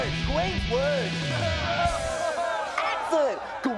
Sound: crowd cheering

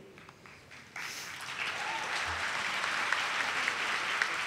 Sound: audience claps

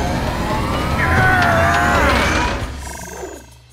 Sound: grunting

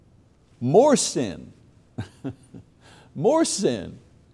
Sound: laughs

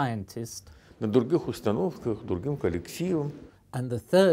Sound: speaking Russian

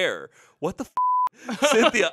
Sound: beep

